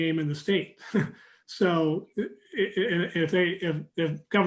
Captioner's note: chuckling